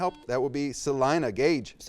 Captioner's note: buzz